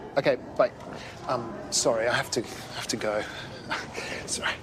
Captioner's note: laughs